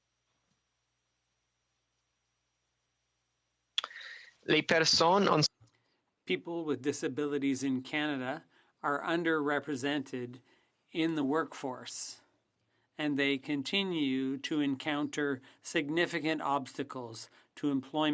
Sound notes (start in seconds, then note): 7.6 speaking French